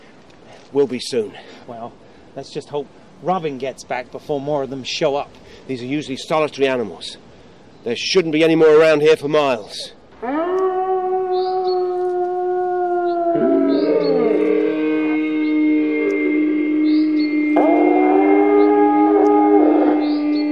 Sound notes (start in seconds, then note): 11.9 distant howl; 15.7 howl; 18.9 distant howl